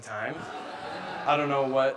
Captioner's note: audience laughing